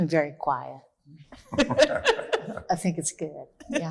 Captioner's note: laughs